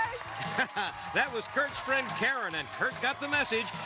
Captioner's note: chuckles